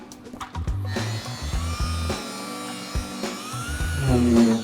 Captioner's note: buffer grinding